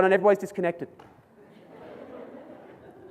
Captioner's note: audience laughs